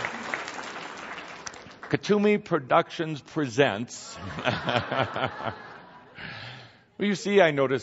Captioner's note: lots of laughter and applause; Kuthumi laughs along with audience